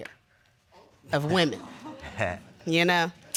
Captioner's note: laughs